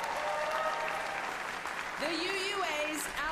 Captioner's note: applause